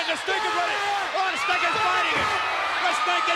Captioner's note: crowd screaming